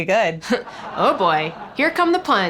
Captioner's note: studio audience laughing